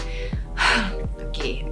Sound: sighs

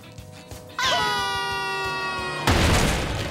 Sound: screaming

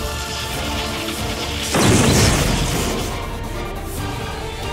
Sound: explosion

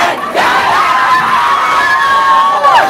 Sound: cheering

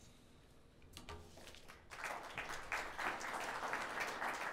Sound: audience clapping

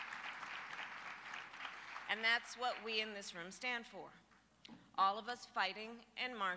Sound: applause

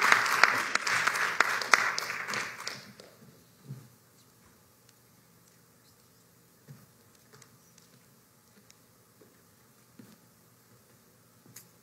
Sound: applause

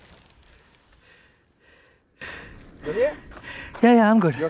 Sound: breathes heavily

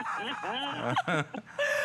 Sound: laughter

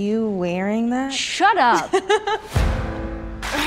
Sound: riley laughs

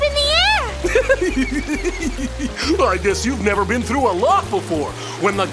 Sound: laughs

